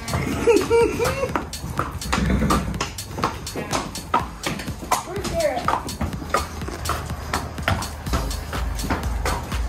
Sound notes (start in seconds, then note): 0.2 laughter; 2.6 hooves clomping